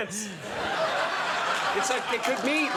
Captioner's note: audience laughs